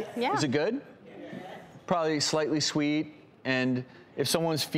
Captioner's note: crowd